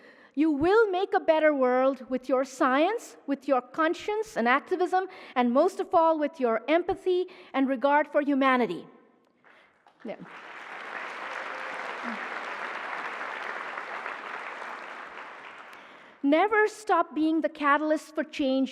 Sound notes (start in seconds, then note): 9.4 applause